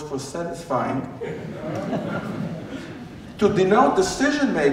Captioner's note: laughter